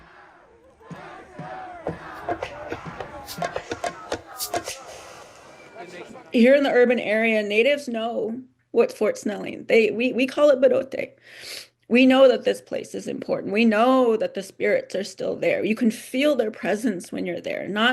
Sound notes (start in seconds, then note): 2.0 upbeat music; 10.5 speaks in native language